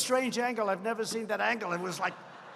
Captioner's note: laughter